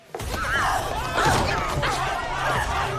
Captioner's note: students clamoring